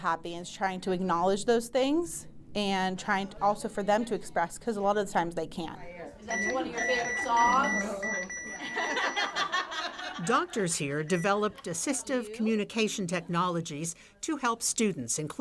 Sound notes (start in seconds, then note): 6.3 device beeping; 8.6 everyone laughing